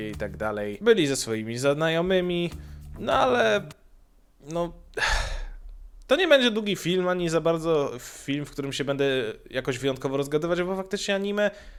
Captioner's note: exhaling